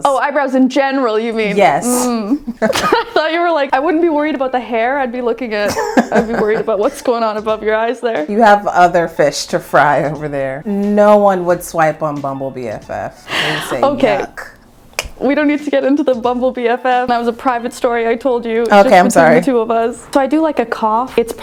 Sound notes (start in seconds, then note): 2.1 both laughing